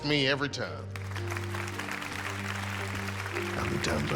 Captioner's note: audience applauding